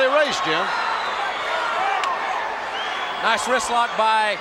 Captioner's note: crowd shout